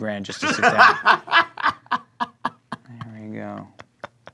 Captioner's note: laughing